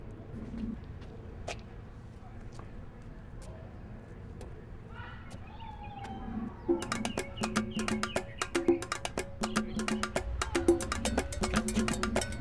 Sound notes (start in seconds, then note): 4.9 yelling off screen; 8.2 african drum music